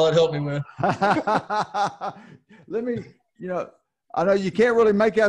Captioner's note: laughing